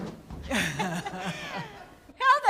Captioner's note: laughs